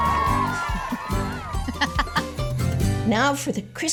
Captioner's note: laughing